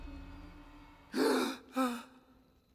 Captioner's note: gasp